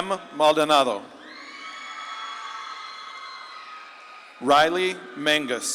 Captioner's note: audience claps and cheers